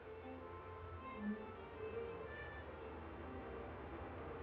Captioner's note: horn honking; engines humming